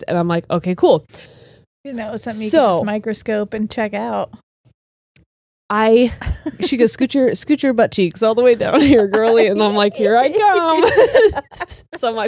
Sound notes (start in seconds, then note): 6.2 laughs; 11.3 all laughing